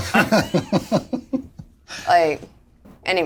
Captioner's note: all laugh